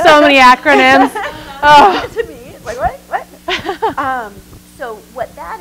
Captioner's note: laughter